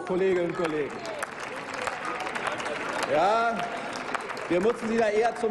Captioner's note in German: Applaus